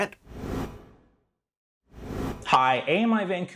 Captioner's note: graphic whooshing